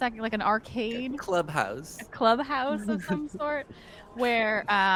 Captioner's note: laughs